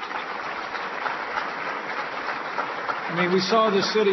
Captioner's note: applause